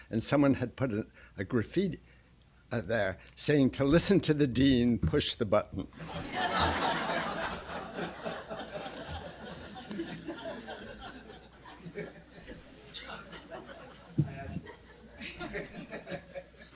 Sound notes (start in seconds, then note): 5.8 laughter